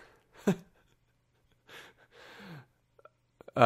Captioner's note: chuckling